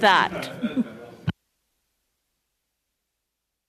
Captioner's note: laughter